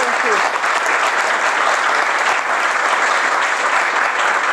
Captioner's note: applause